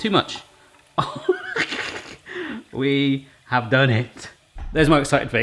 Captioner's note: laughing